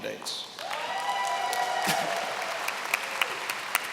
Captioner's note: applause